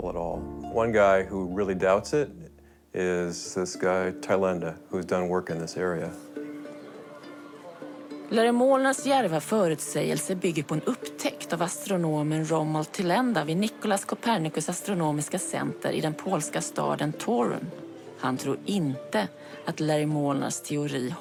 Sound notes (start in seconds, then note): 8.0 reporter speaking foreign language; 16.1 reporter speaking foreign language